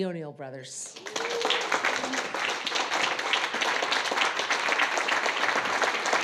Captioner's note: audience applauding and whooping